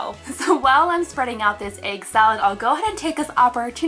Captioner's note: laughs